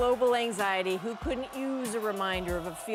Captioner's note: cheers and Applause